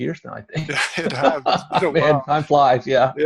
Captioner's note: both laugh